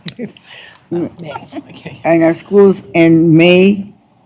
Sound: laughs

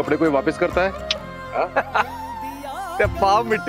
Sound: laughs

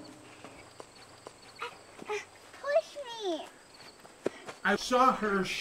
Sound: struggling

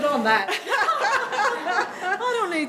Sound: laughing

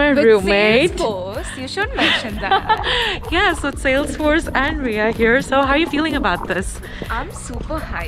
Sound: laugh

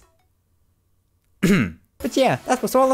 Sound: cough

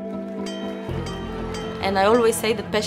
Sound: bell dinging

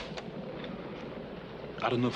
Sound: tape recorder clicks

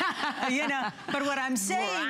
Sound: laughter

